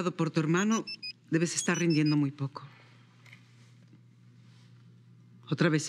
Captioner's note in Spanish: Suena el celular